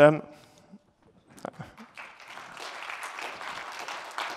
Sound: applause

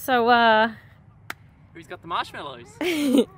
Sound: claps; chuckles

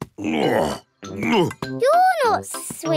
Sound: grunts

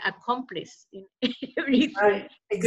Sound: laughter

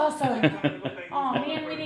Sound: laughter

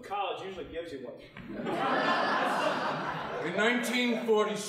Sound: audience laughing

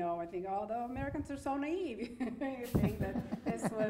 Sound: laughing

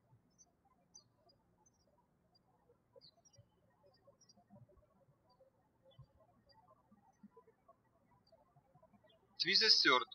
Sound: birds chirping

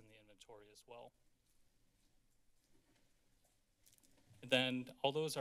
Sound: silence

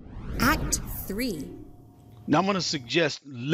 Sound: robotic Voice

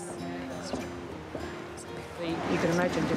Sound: hushed chatter

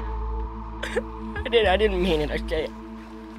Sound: crying

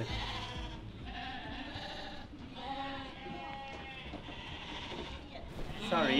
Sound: sheep bleating

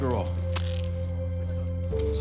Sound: handcuffs clicking

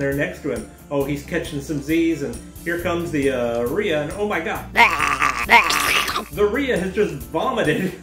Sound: retching noises

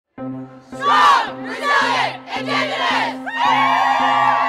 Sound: piano notes; group chanting; group screaming

